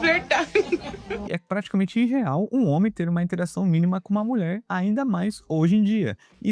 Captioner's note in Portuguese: risadas